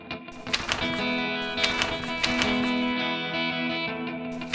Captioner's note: rustling pages